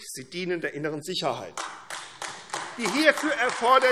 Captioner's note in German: Beifall AfD